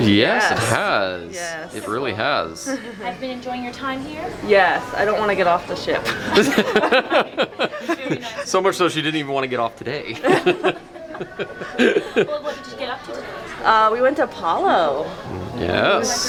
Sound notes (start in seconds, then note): 6.0 laughing